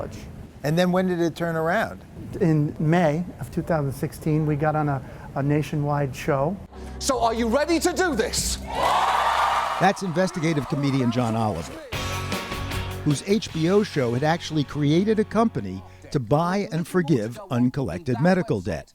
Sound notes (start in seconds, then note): 8.6 cheering and applause